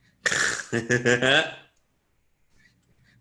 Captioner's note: giggles